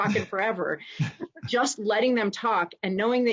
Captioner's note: chuckling